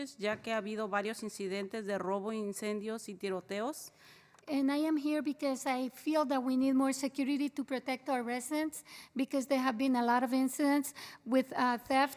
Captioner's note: spanish